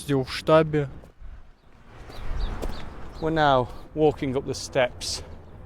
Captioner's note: birds chirp